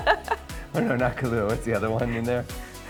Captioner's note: laughing